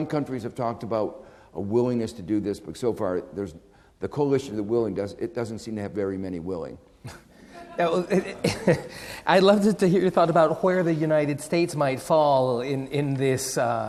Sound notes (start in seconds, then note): 7.0 laughing; 7.4 audience laughing